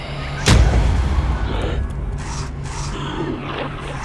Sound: ghostly sounds; bang

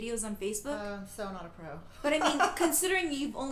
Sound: laughing

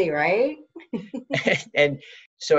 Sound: both chuckling

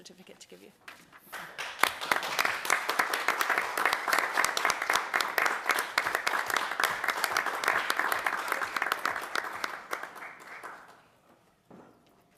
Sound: applause

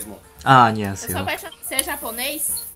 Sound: Korean

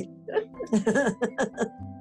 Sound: laughter

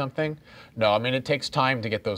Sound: none

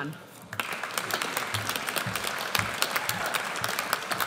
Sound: audience applauds

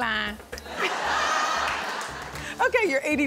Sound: audience laughs

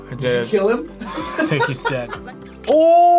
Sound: laughs

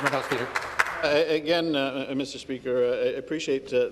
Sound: some Applause

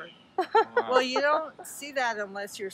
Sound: laughing

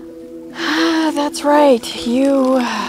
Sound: sigh

